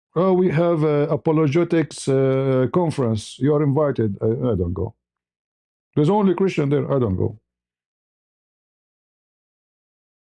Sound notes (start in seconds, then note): none